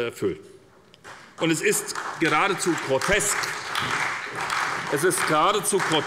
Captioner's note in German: Beifall bei der SPD